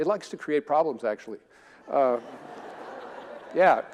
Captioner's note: audience laughing